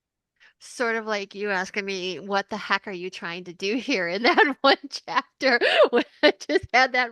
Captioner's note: starts laughing